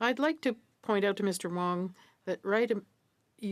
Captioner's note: speaking French